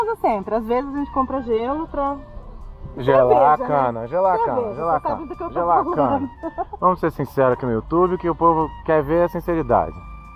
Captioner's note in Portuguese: cionfusão de vozes